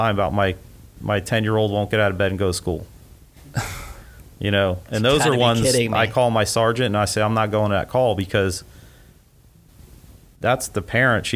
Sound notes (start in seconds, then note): 5.0 laughs